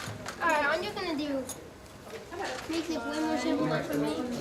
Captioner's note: children talking